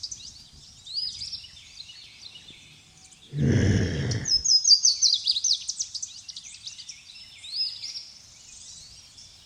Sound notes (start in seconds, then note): 3.4 woman groaning